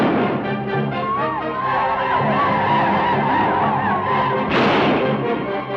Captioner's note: gun fires; native Americans howl; gun fires